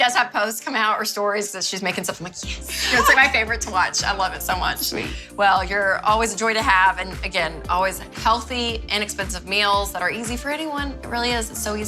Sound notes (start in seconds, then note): 2.7 laughs